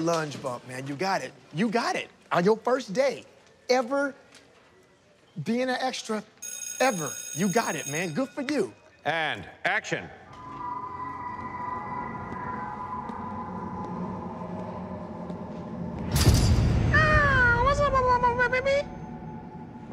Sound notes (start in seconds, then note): 10.5 eerie music; 16.6 high-pitched voice